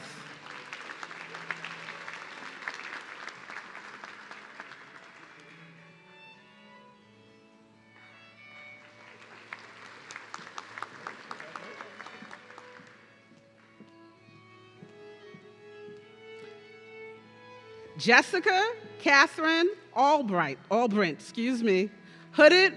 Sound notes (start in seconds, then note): 0.2 audience cheering; 8.4 audience clapping